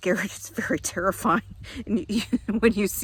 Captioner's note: chuckling